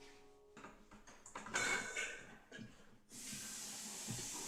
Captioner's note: soft Music; metal Clanging